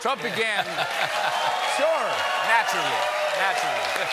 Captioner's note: cheers and applause; laughter